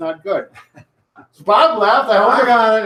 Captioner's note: chuckles